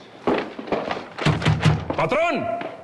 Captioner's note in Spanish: Toques en la puerta